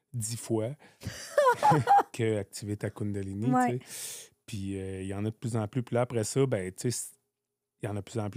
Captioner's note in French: rires